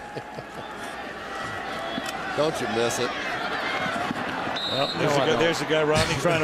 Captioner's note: laughs